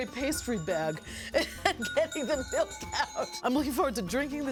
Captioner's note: laughing